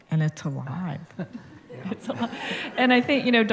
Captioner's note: laughter